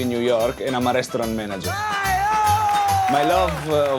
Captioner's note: gritos